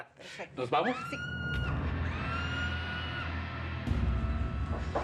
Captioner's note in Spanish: se oyen gritos